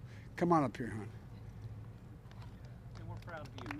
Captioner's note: applause